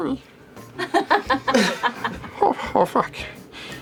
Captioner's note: gasps; laughter